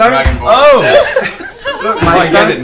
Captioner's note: all laugh